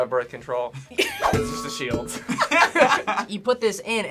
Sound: group laughs

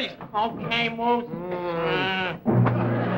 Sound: grunts

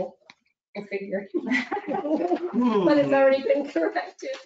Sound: laughing

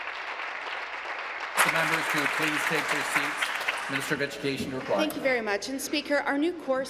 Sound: applause

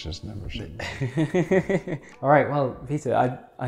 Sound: laughs

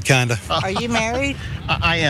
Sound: laugh

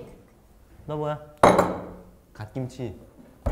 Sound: bang

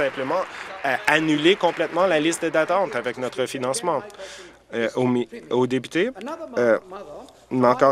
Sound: applause

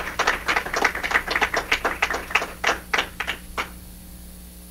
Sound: applause

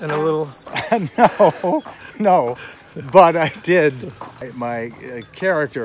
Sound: laughing

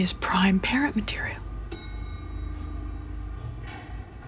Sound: elevator dings

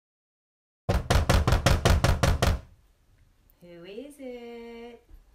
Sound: knocking

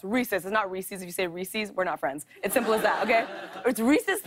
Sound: laughter

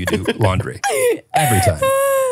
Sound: laugh

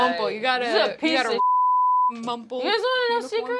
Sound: beeping

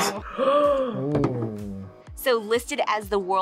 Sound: gasps

